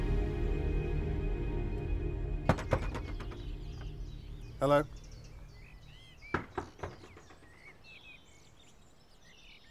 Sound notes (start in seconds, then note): 2.4 knocking on the door; 4.9 birds chirping